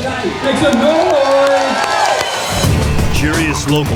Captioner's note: cheering